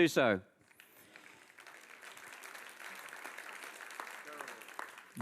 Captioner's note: audience applauds